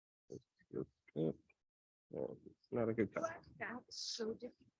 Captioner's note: audio cutting out